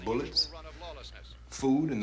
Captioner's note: murmuring